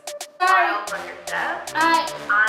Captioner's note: people talking on meeting